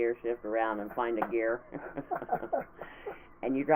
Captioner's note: laughing